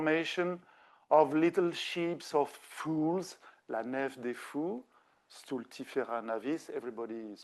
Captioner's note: speaking French